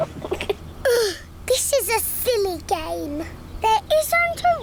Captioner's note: laughs; groans